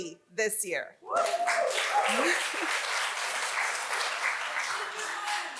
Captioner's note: audience applauds